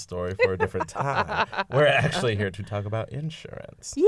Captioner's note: laughter